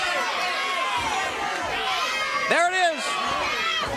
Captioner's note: crowd chattering